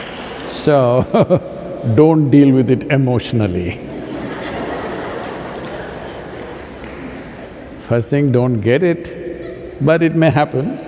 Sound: laughter

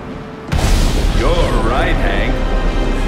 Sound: thunderclap

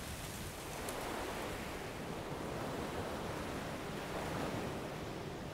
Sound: leaves rustling in the wind; waves crashing

